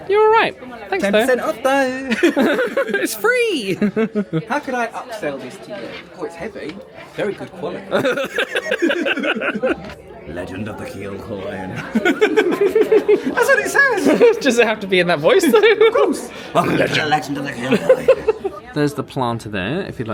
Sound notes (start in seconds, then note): 2.0 laughing; 7.9 both laughing